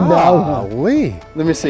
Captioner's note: man exclaims